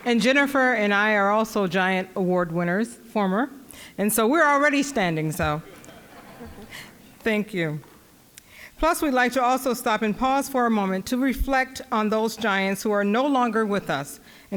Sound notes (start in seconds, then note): 5.6 audience laughing